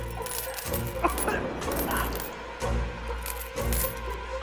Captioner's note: coins clinking; man coughing